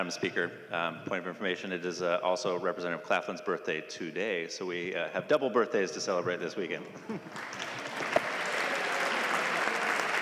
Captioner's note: laughing